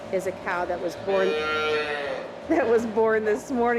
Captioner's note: calf moos